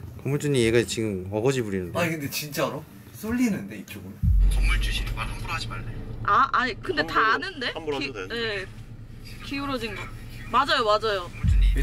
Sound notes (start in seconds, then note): 4.4 voice from the phone